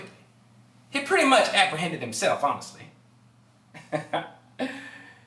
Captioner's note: laughter